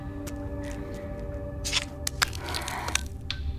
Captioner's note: flesh tearing; chip beeping